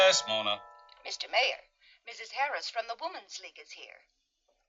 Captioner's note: intercom